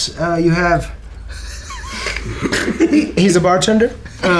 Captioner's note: laughter